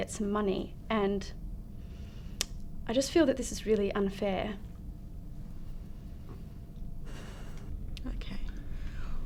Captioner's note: sighs